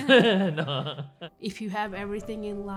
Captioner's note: laughing